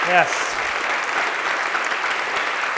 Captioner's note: applause